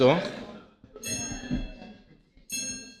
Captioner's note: television